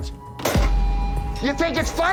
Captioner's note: glass clanking